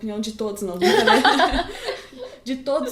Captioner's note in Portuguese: gargalhadas